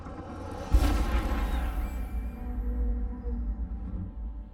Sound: dramatic digital sounds

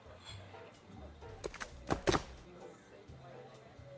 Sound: tree creaking

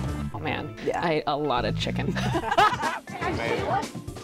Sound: laughter

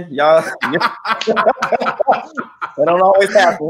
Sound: laughing

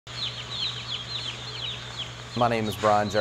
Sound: chickens chirping

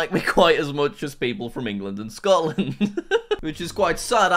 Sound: laughs

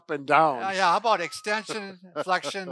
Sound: laughing

